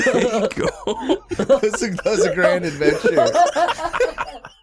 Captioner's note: laughter